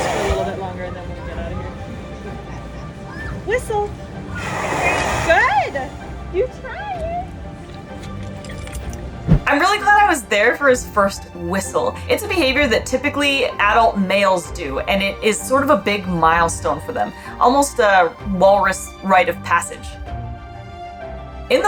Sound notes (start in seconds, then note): 0.0 Balzak vocalizes; 1.8 background music; 1.8 background noise and chatter; 4.2 Balzak makes airy whistling vocalization; 7.8 background music; 20.0 background music